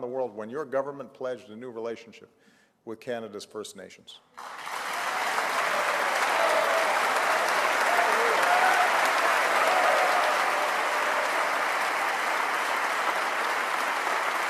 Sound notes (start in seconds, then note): 4.4 cheers & applause